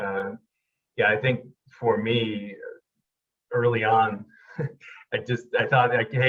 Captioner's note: chuckles